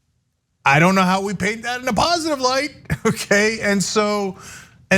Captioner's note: laugh